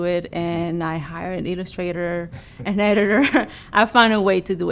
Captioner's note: laughs